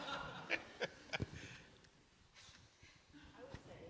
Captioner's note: audience laughing; laughing